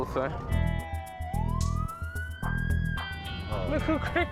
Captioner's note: siren blaring; laughs